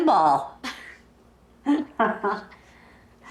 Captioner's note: Holly and grandma Williams laughing